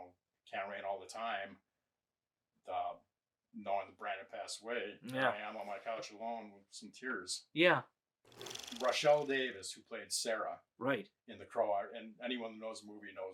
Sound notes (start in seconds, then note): 8.3 film reel clicking